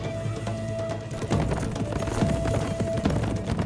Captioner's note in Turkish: Müzik - Gerilim; At nalı sesleri